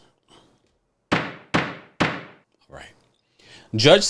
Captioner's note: gavel pounding